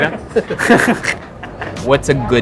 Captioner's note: chuckles